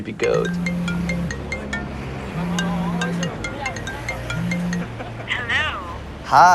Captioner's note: phone ringing